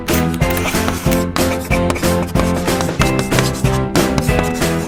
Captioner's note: chalk scrapes on board